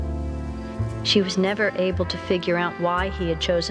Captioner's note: Nancy, reading